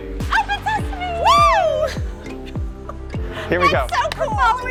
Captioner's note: wooing